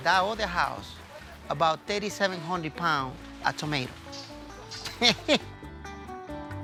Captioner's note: laughs